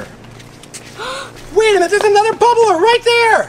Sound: child gasps

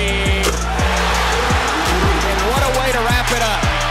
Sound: crowd cheering

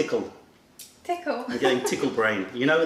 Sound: laughter

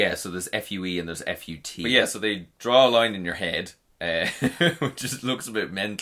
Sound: laughs

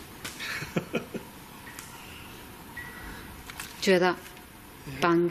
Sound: chuckles

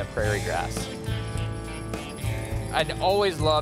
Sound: chains jingling

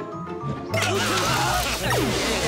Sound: moaning

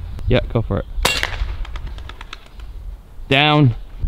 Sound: loud clanking pellet shot

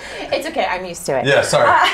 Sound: laughs

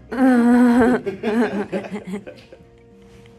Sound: laughter

